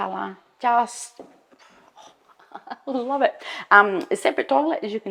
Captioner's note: chuckles